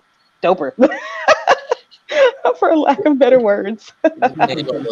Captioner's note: laughing